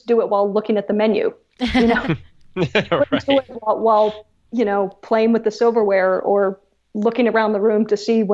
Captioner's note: laughs